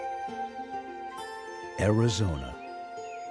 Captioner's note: voiceover